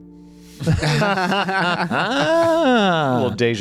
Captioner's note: laughter